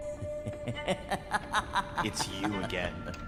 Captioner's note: laughing